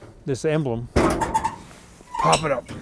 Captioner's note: metal squeaking